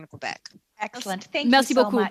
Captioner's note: speaking French